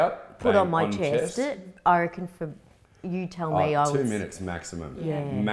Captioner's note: stammers